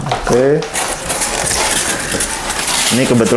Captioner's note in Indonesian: suara styrofoam